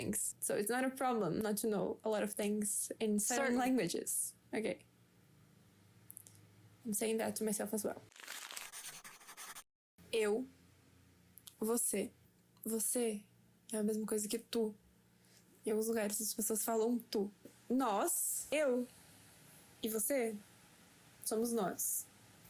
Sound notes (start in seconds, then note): 8.1 paper sounds